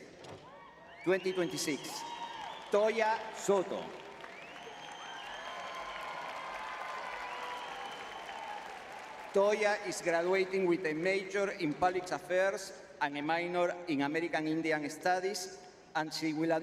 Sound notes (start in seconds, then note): 0.2 audience cheering; 6.9 audience cheering